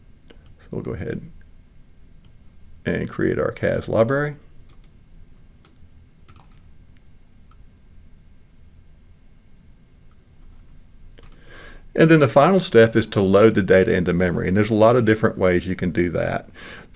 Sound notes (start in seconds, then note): 6.3 clicking